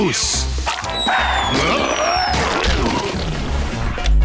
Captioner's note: screaming